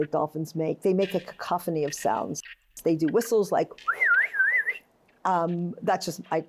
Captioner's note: whistles